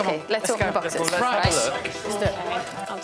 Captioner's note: blows whistle